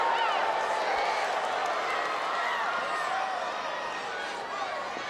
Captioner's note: audience chattering